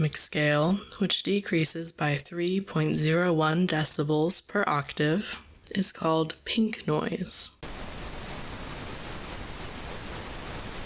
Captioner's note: pink noise